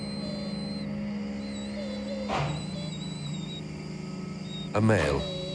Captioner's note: machine whirring